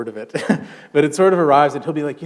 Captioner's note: chuckle